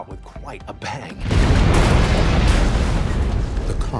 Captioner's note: explosion booming